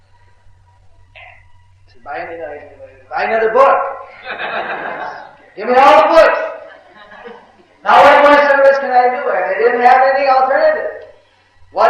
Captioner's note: laughs